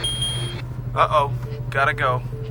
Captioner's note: dinging